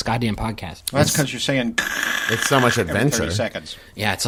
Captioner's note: static